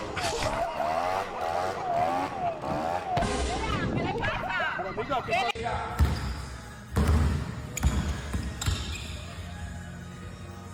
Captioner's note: dramatic Music; people Chattering; upbeat Music